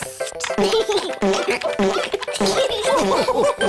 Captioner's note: giggles; laughter